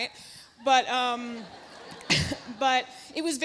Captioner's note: audience laughs